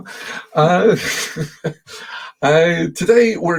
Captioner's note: chuckling